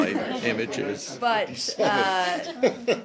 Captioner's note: laughter